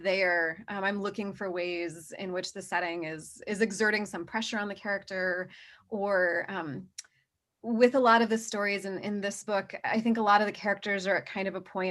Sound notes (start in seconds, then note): none